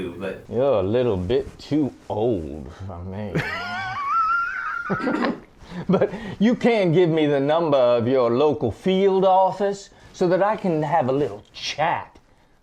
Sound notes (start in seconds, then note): 3.3 joint laughter